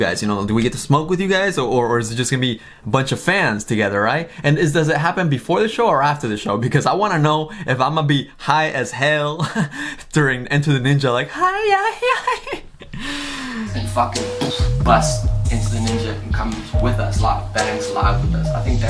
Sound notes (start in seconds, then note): 11.8 laughs